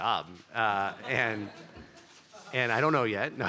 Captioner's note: laughter